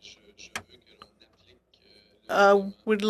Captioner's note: speaking in French